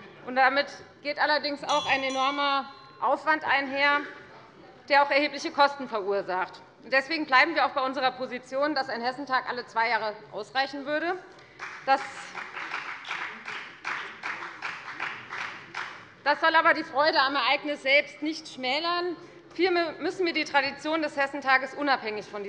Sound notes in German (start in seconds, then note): 11.4 Beifall bei der FDP